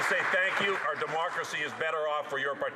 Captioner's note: some Applause